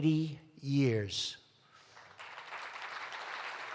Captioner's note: applause